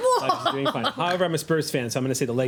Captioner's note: laughing